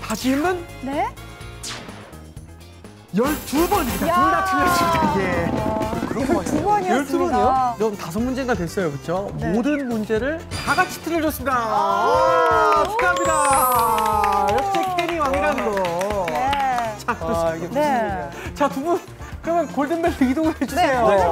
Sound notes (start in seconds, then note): 13.5 getting a big applause after making a wrong answer parade